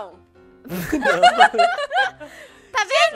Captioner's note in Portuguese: Risadas